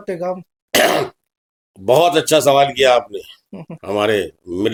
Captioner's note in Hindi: गला साफ़ करने की आवाज़